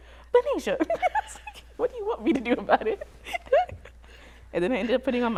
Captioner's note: laughs